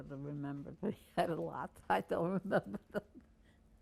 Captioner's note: laughing